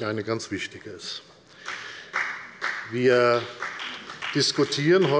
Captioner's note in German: Beifall der Abg